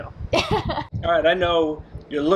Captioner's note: laughing